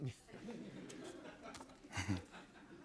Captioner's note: laughter